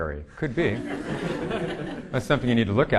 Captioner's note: audience laughing